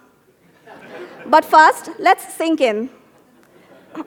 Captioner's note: laughter